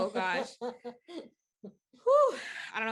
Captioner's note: chuckling